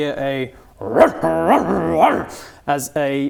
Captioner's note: ruff ruff ruff